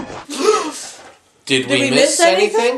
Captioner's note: gasp!